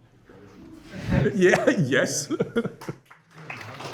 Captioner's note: laughs; applause